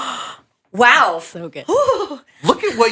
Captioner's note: gasps